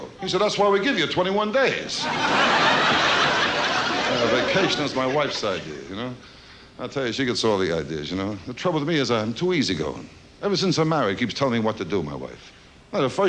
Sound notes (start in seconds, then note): 1.9 audience laughs